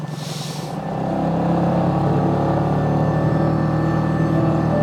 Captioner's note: engine roaring